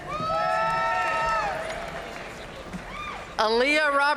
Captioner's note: audience cheering and applauding